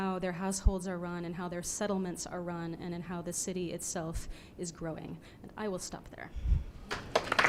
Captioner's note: applause